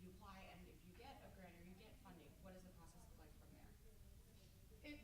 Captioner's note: none